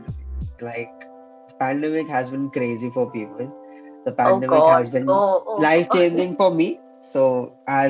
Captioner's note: laughs